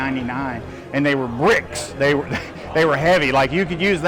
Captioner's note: laughs